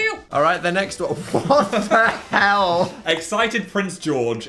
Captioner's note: laughing